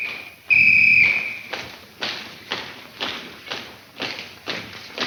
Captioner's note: whistle blowing; feet stomping